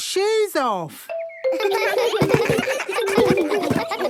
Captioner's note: giggles